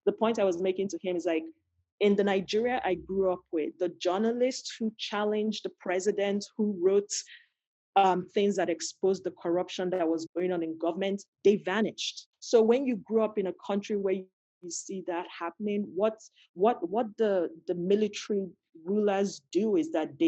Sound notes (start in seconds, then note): none